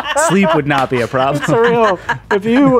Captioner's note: laughing